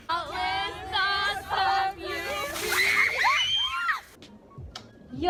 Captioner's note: screams